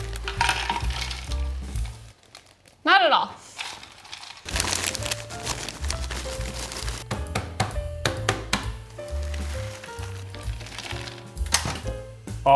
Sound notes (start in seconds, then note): 0.0 slow jazz music; 0.0 Takis rattling; 4.5 slow jazz music; 7.0 hammer tapping; 8.9 Takis rattling; 9.2 slow jazz music